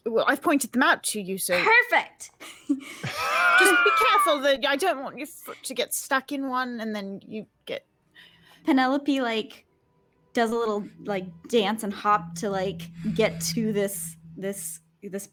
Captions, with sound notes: - Well, I've pointed them out to you, so- - Perfect! (people laughing) - Just be careful. I don't want you to get stuck in one and then you get... - Penelope like, does a little like dance and hop to get to this,